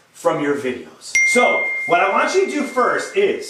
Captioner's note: ding